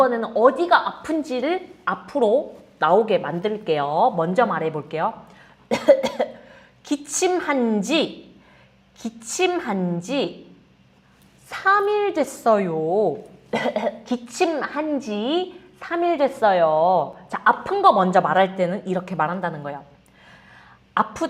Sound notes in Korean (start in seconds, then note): 5.7 기침